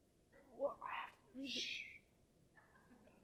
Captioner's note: stammers; shushes